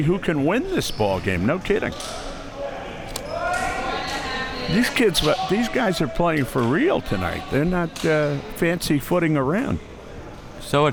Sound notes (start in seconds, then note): 3.1 audience chattering